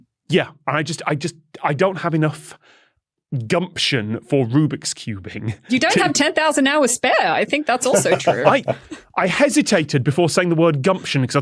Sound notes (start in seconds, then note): 7.7 laughs